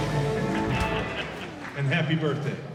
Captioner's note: laughter